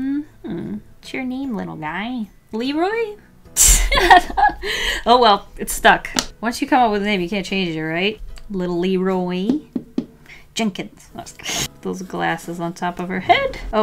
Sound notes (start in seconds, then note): 3.9 laughs; 9.4 tap, tap, tap